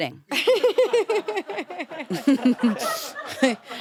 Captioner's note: crew laugh; chuckles